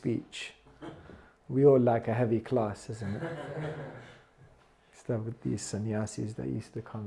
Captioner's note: laughter